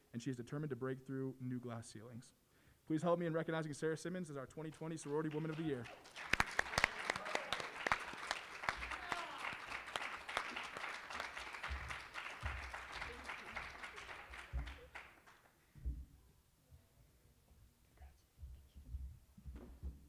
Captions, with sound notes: and she is determined to break through new glass ceilings. Please help me in recognizing Sarah Simmons as our 2020 Sorority Woman of the Year. [APPLAUSE] Congrats. Thank you.